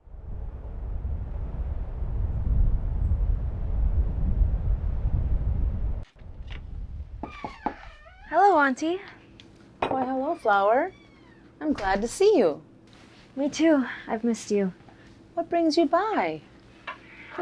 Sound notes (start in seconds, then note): 0.0 wind humming; 7.2 door creaks; 7.2 knocking on door